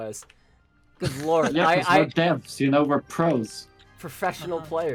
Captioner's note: professional chuckle